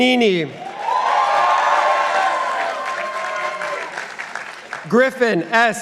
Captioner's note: participants applauding